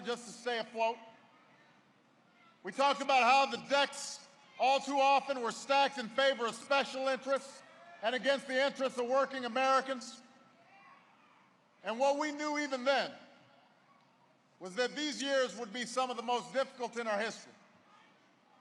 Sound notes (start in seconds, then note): none